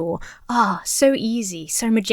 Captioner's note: sighs